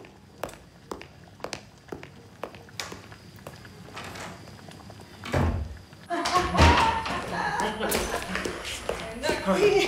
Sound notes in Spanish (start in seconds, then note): 7.3 Risas